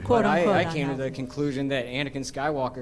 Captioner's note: laughter